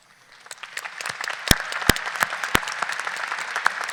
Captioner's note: people clapping